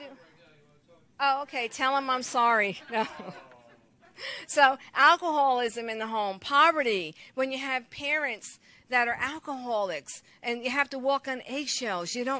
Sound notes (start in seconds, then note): 2.8 chuckles; 2.8 audience laughs lightly